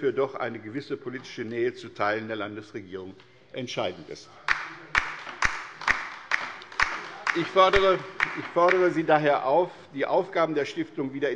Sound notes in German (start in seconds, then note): 4.4 Beifall bei der LINKEN - Zurufe von der SPD